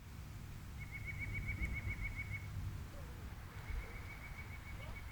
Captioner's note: birds chirping